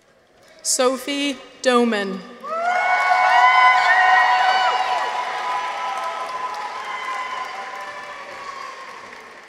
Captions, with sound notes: Sophie Doman. -(people cheer) -(audience applauds)